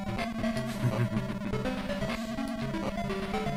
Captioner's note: laughter